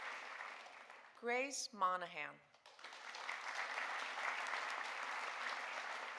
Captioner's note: audience applauding